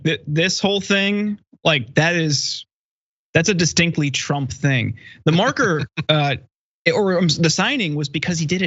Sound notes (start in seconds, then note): 5.2 laugh